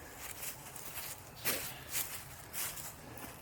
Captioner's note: footsteps